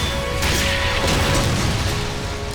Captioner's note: thudding